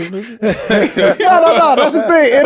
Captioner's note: all laughing